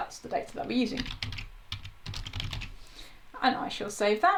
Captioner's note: types loudly